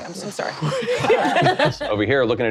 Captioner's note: laughing